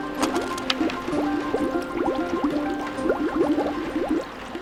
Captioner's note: bouncy music; liquid bubbling